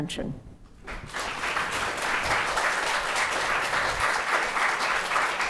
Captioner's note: audience applauding